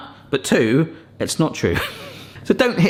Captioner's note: laughs